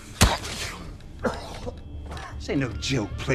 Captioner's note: choking; coughing